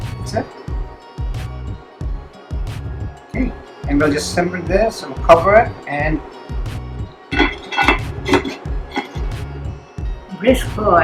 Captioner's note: lid clatters